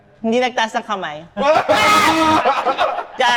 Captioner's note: everyone laughs